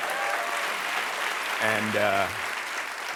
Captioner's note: applause